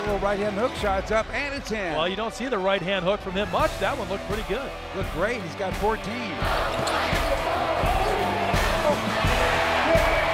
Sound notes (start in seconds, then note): 6.4 crowd cheers